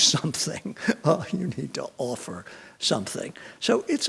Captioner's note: chuckles